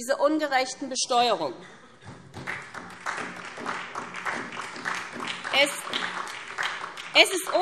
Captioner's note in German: Beifall SPD und vereinzelt DIE LINKE